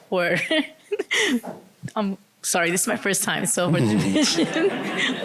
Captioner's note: laughter